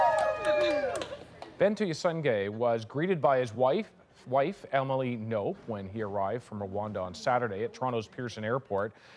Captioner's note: cheers and Applause